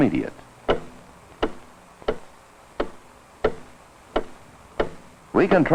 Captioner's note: ticking